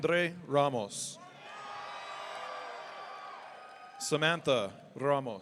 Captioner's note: audience cheering